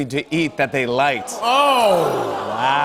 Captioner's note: audience "Oohs"